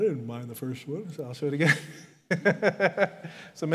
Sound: laughs

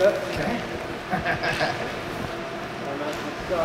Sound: laughs

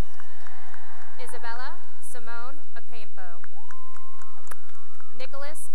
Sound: cheering and applause; cheering and applause

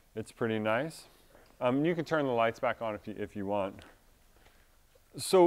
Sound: none

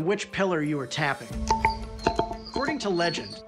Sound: pillar ringing

